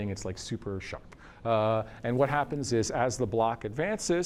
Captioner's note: none